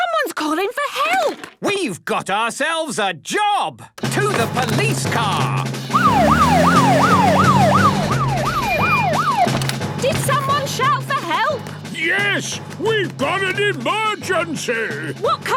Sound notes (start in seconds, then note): 5.9 siren wailing